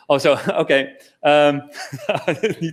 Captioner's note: laughter